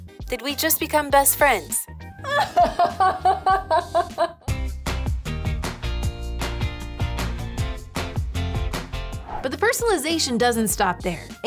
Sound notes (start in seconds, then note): 2.2 laughing; 4.6 upbeat music